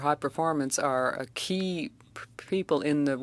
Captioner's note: speaking French